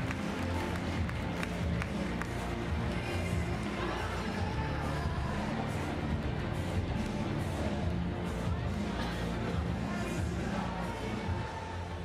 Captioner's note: applause